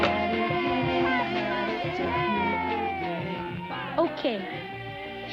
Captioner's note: kids cheering